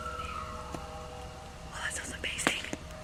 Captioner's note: animals howling